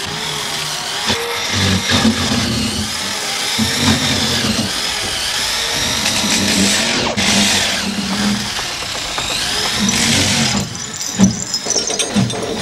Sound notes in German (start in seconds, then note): none